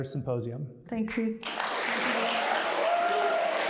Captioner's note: applause